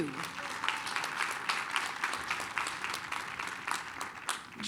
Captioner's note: applause